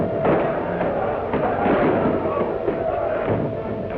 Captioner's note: priests chatter